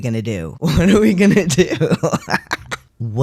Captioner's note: laughing